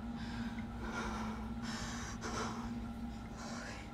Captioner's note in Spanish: Respirando pesadamente